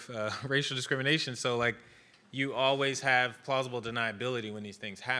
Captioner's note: laughs